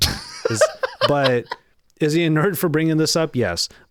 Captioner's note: laughing